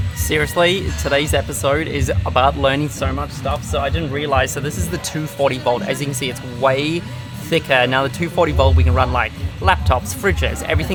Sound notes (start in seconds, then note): none